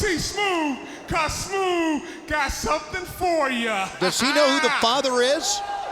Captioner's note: laughs